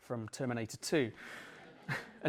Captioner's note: laughter